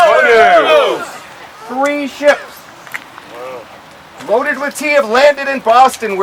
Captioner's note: crowd